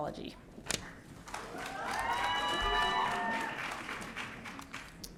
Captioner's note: audience cheering